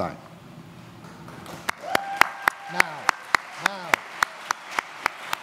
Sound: applause

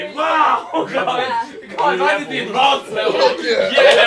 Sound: Ethan groaning

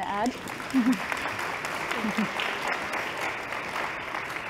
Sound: applause

